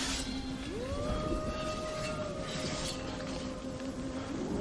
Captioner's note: thunder rumbling